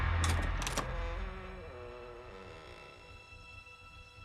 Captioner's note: door knob clicks; door creaks; suspenseful music